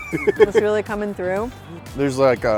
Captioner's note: laughter